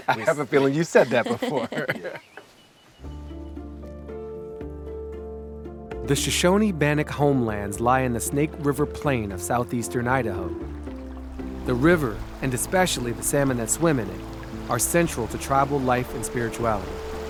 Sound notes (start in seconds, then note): 3.3 gentle guitar music; 10.4 river water flowing